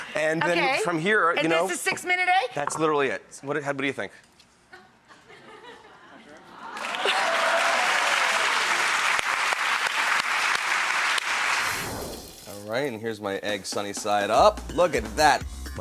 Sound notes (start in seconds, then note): 5.2 audience laughs; 6.6 audience applauds